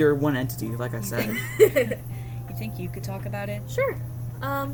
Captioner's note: laughs